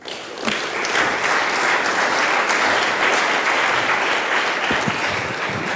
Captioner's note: applause